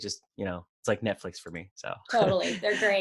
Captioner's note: laughs